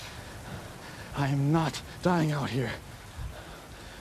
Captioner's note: none